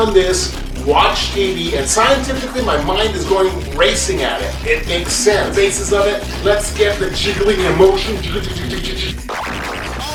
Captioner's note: jiggling sounds